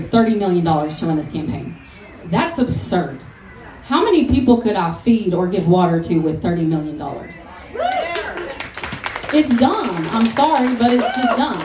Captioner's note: applause